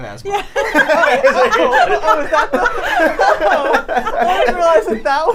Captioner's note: people laughing